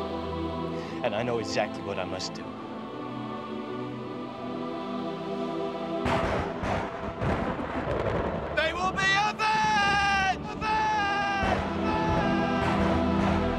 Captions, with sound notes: and I know exactly what I must do. (thunder crashes) They will be avenged! (dramatic music)